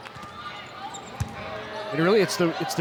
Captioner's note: ball thumping